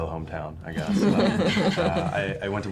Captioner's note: laughing